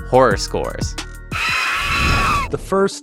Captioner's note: screaming